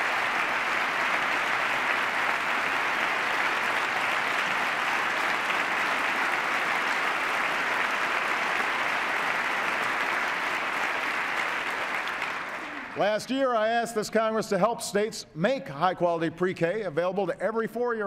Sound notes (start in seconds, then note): 4.8 applause